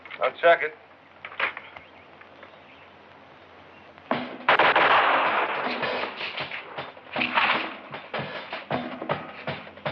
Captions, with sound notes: I'll check it. [gunshots] [bag whipping]